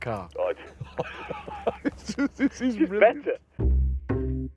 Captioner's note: they laugh